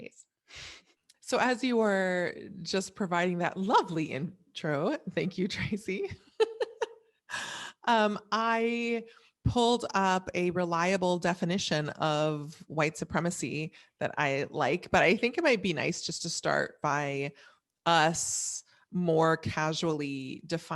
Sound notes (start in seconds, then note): 6.2 chuckles